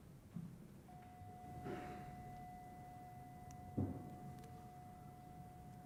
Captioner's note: bell rings